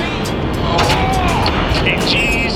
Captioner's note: groans